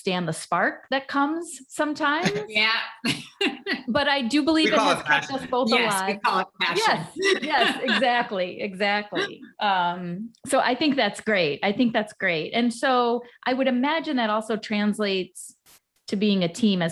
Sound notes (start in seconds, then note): 4.6 chuckles